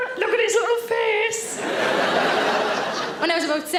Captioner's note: audience laughing